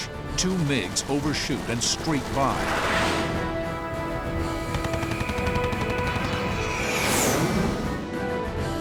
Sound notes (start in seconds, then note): 3.2 dramatic music playing; 6.8 engines whining